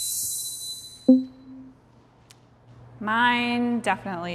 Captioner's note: soft intense music; text box pops